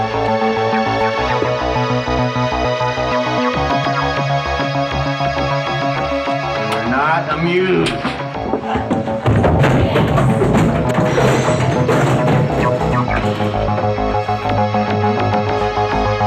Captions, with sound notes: - We're not amused. (chair crashes) (ominous sci-fi music)